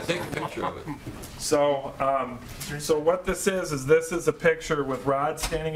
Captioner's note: laughter